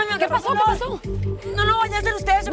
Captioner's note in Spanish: Quejidos